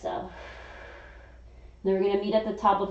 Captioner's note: inhaling; exhaling